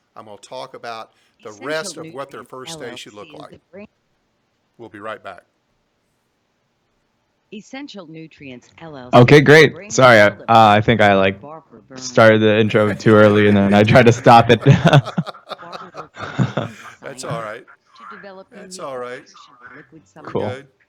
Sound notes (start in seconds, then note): 16.5 laughs